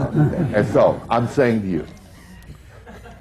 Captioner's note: laughter